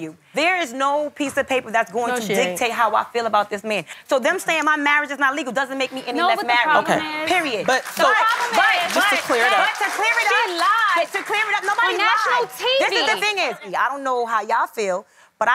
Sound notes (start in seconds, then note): 10.1 crowd clapping